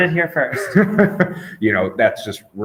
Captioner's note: interviewer laughing